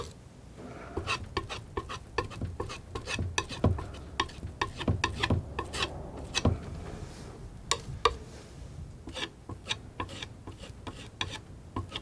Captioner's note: tapping